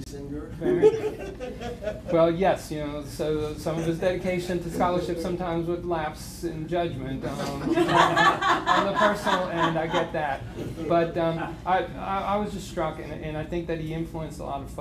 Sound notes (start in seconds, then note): 2.3 laughter; 7.3 laughter